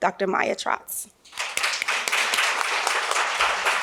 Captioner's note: applause